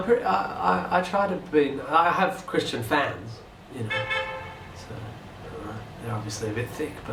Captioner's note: car horn